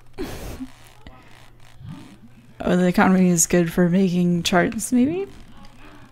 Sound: laughs

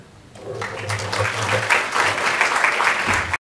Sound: applause

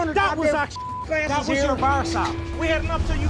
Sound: beep

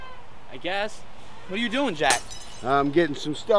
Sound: glass shatters

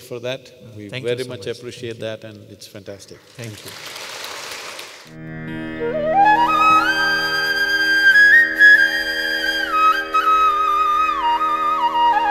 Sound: applause

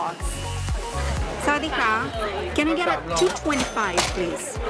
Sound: hello in Thai

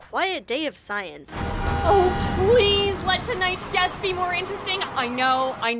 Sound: loud traffic

